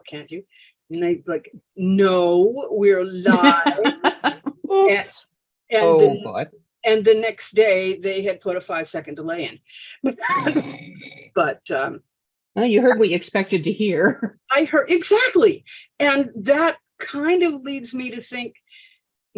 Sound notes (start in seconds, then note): 10.2 laughter